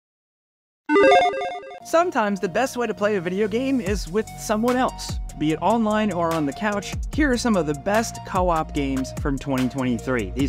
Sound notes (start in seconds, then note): 0.9 electronic noise